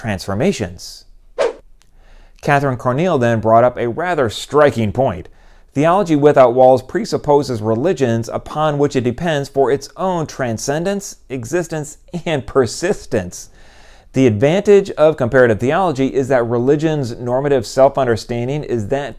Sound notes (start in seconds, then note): none